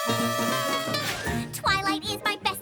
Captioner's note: horns blowing